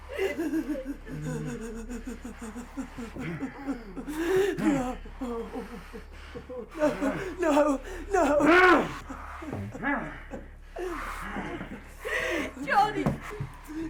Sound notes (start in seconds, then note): 0.2 Sue whimpering; 3.6 sobs; 6.3 assailants grunting; 12.0 sobs